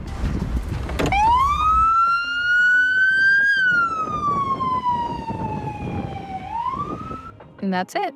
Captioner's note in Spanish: sirenas